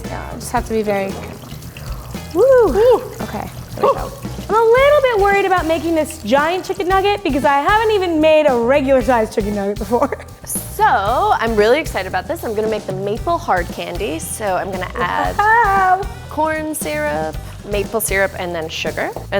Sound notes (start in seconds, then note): 10.2 laughs